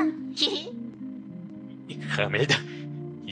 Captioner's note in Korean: 웃음